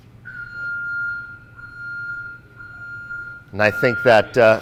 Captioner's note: beeping sound